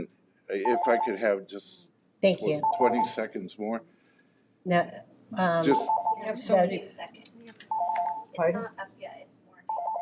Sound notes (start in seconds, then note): 5.6 alarm beeping